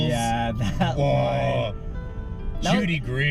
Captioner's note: sounds of excitement